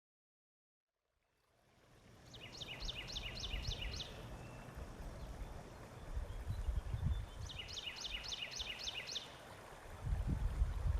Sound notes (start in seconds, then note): 2.1 birds chirping